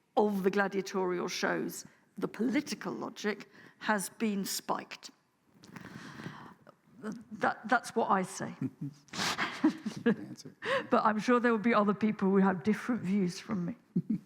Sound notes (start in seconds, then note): 8.6 laughs